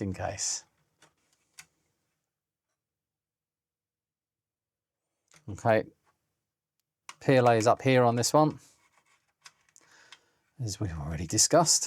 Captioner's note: silence